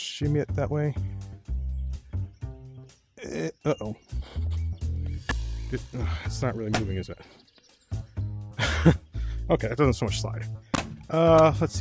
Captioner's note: laugh